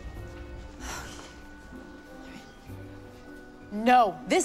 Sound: sighs

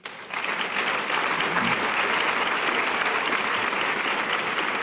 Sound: audience applause

